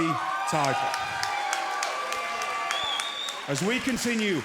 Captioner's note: crowd cheering